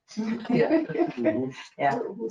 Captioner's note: attendees laughing